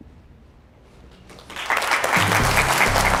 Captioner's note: applause